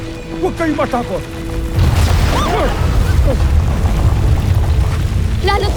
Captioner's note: rumbles, squeals & gasps; powerful blast nearby